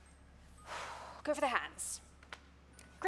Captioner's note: deep breath